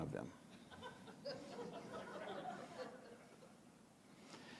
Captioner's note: audience chuckles